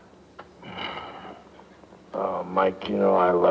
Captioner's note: soft snorting